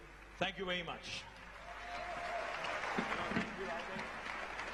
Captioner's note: applause